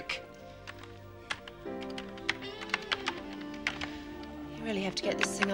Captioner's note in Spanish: clic del teclado